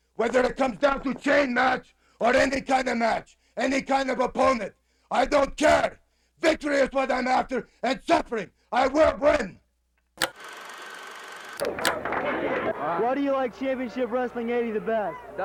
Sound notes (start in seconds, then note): 10.2 film projector clicks; 11.6 film reel ticking; 11.6 crowd chattering